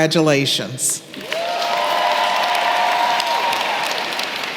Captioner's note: applause